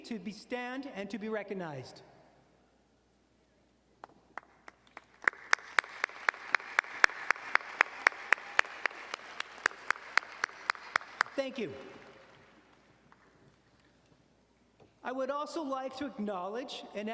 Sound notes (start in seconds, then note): 4.8 audience cheering and applauding